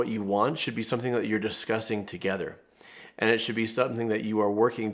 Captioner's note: none